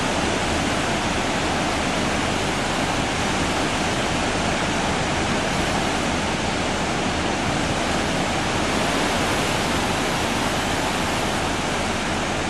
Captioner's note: waves crashing